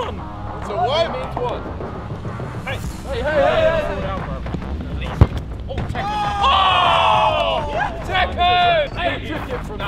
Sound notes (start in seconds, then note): 7.0 jeering